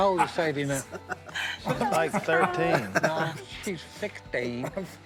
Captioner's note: laughing